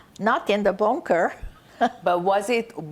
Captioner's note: laughing